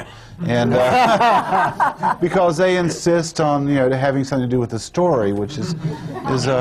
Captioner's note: laughter